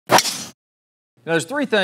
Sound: golf ball cracks

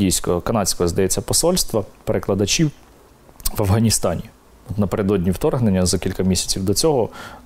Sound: russian

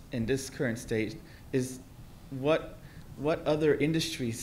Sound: none

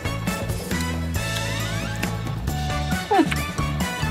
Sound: clicks tongue

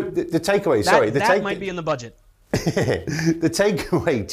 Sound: laugh

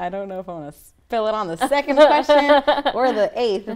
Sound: laughs

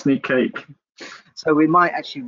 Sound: laughs

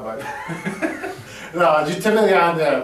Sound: all laughing

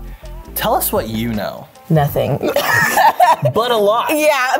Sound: laughs

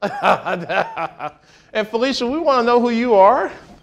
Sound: laughing

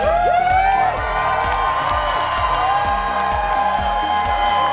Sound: applause

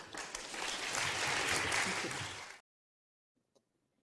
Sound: audience clapping

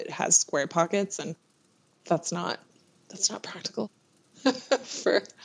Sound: laughs

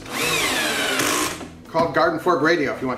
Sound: drilling sound

